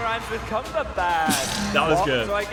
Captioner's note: laughing